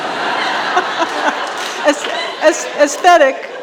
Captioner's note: all laughing